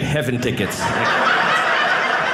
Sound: audience laughing

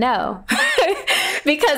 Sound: laughing

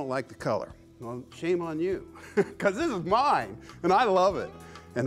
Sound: laughs

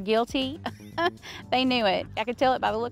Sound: chuckles

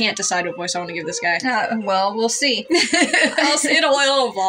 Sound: laugh

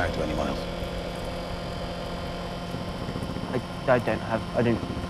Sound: fan buzzing

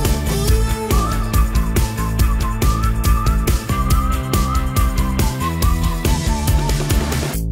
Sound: whistling

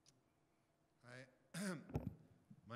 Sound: voiceover

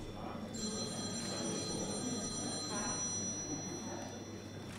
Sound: phone rings

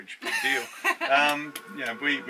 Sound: laughing

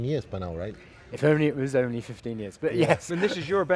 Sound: laughs

